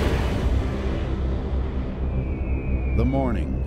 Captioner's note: falling bombs whizzing